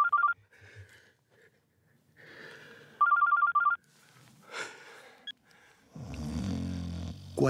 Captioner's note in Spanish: Suena celular; Ronquidos